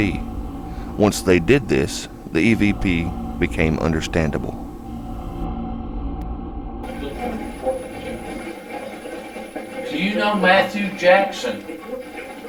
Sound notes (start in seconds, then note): 5.2 ominous music; 6.8 static playback transmitting